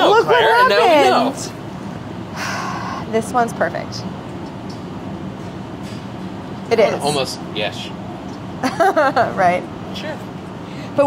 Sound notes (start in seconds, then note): 2.4 sighs; 8.8 laughs